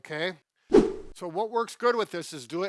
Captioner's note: air whooshes